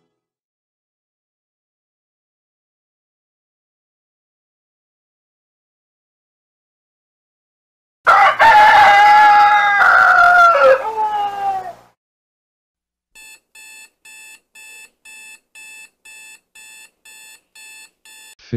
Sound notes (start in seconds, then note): 8.0 rooster crowing; 13.1 alarm clock buzzing